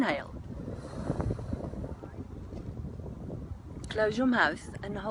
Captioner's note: slow inhalation